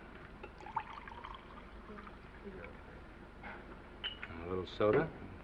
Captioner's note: scotch sloshing